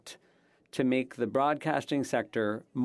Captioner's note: speaking French